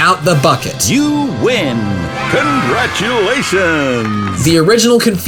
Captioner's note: children cheering